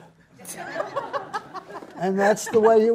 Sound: audience laughs

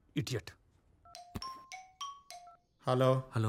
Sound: phone rings

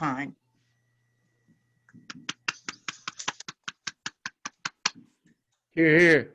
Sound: applause

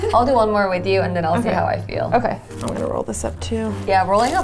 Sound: none

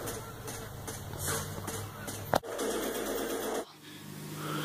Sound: gun fire* in Background

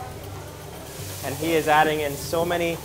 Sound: sizzling

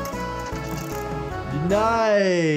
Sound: coin clinks; playful music

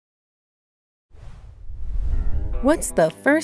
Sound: logo whooshing

